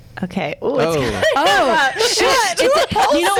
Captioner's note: laughs